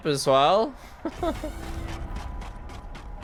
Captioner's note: laughs